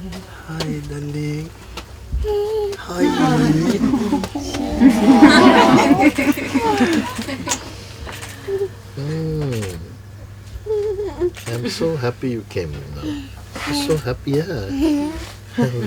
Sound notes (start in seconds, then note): 3.0 child giggling; 4.5 laughter